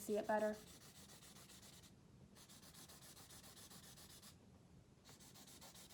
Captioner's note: markers scribbling